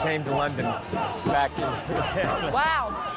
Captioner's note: crowd